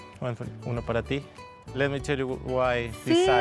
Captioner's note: speaking Spanish